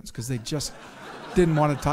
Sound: audience chuckles

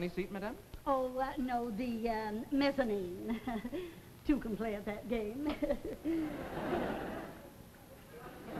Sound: giggles; audience laughs

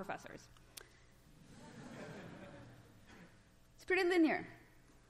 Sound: laughter

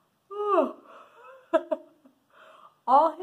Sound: yawning

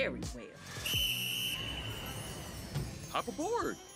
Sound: whistle blowing

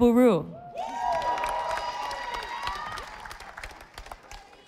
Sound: audience applauding

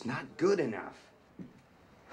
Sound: sighing

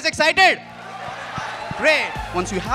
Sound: applause

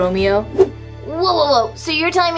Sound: whoosh

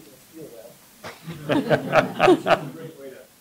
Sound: laughter

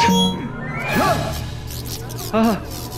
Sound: grunting

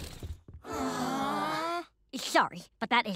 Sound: all groan

